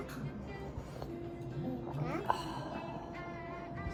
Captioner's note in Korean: 후르릅 / 캬하